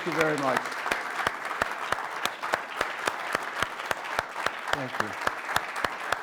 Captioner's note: applause